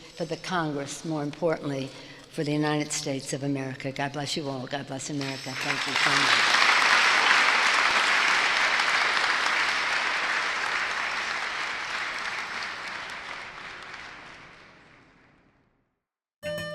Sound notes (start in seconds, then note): 7.3 crowd applauds